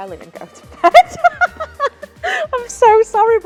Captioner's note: laughs